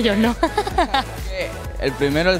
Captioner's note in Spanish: risas